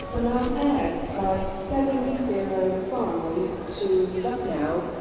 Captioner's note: airport PA